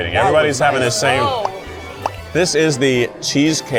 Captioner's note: mouth pops